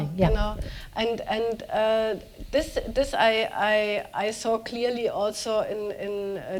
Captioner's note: speaking german